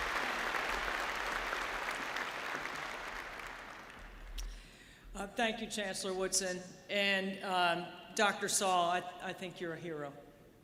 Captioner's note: applause